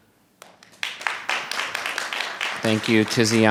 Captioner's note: audience applauding